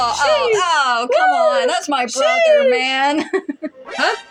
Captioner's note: laugh